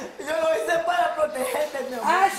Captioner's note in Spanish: solloza